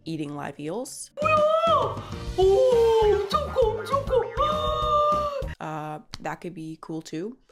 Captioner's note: speaking in foreign language